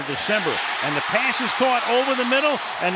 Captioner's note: cheering